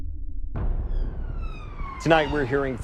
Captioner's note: tense music; sirens wailing